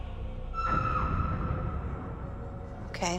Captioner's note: faint shriek